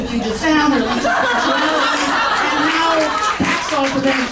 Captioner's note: audience laughing and applauding